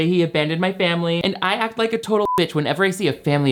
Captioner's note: beep